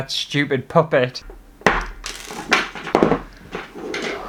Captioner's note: hammering